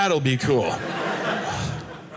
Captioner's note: audience laughing